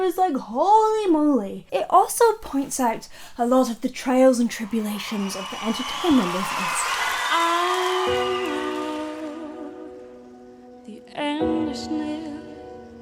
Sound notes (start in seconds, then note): 6.9 audience cheering